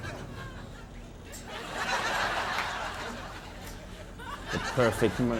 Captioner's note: audience laughing